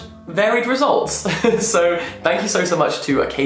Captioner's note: laughing